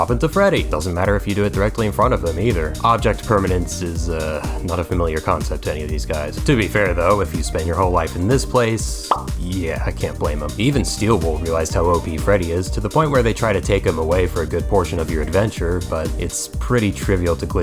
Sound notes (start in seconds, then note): 9.0 pop